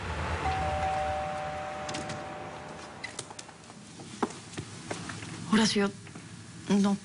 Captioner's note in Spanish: Timbre de la puerta; Sonido al abrir la puerta